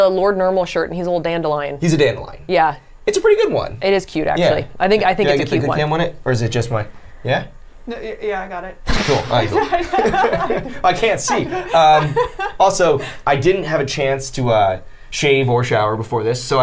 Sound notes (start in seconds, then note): 9.1 the group laughs; 9.4 Safiya laughs